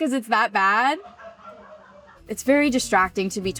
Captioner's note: Vogue laughs